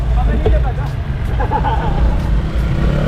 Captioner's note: laughter